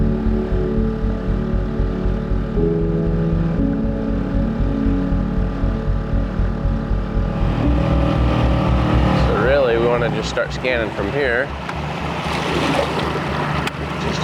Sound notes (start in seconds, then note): 0.1 dramatic music; 7.8 boat engine humming